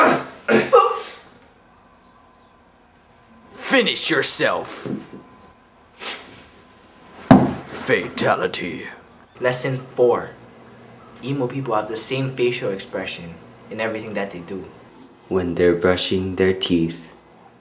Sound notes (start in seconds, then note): 0.0 abrupt grunt